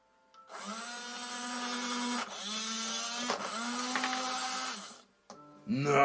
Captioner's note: loud whirring noise